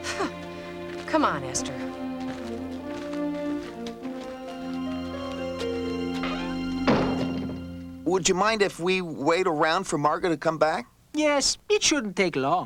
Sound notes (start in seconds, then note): 6.1 door slams